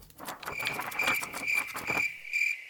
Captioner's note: crickets